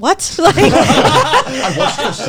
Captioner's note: all laughing